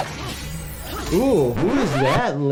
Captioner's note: blade pings